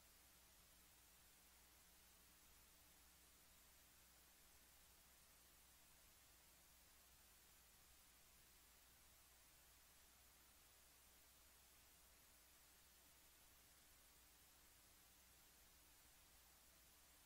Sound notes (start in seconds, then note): none